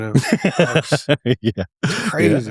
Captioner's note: laughter